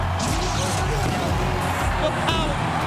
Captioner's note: upbeat music continues; fireworks popping